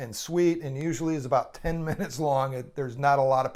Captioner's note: laughs